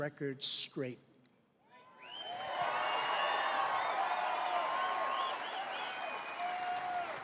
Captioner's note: applause